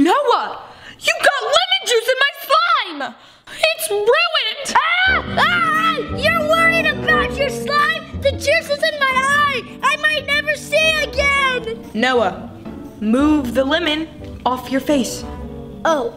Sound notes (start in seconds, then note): 4.7 screaming